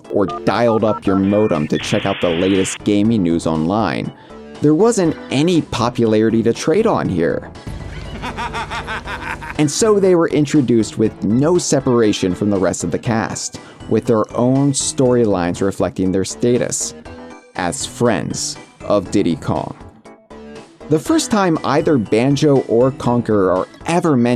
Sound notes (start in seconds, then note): 8.0 giddy laughter